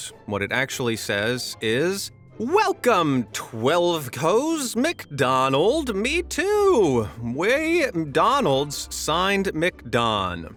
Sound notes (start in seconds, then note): 2.3 in an exaggerated cheery voice